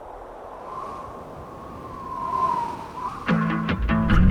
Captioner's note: wind whooshing; upbeat music